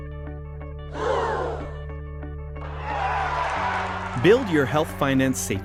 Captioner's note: crowd gasping; sigh and applause